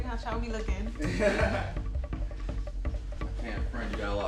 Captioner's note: chuckles